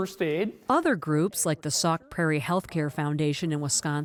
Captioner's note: voice-over